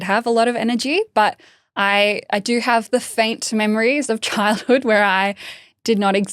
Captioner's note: laughing